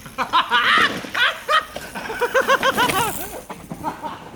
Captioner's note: excited laughing